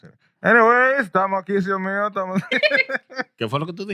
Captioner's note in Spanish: Hablando en idioma extranjero; Riendo